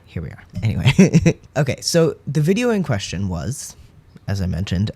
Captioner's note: laugh